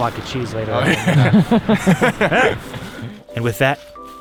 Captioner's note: all laughing